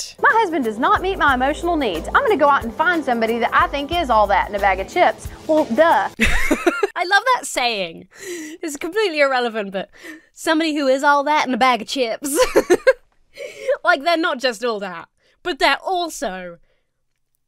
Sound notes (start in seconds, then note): 6.2 laughs; 12.2 laughs